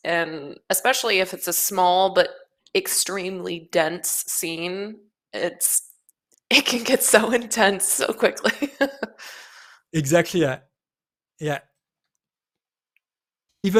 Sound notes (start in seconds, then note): 8.5 laughs